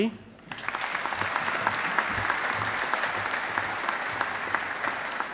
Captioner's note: audience applauding